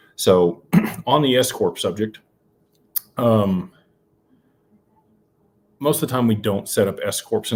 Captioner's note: clears throat